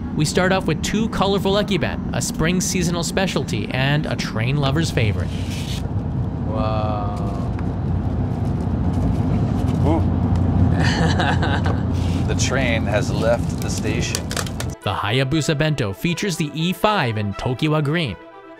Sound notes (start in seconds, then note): 10.7 laughs